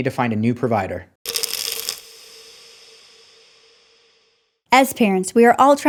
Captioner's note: pills rattling